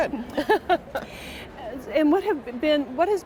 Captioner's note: laughter